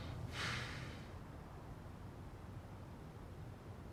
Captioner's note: man sighs